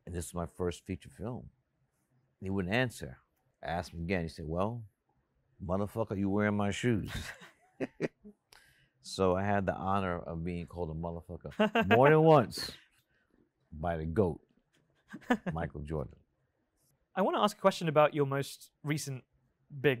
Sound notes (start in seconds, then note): 7.0 Spike laughs